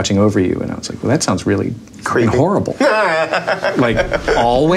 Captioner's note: podcast host laughing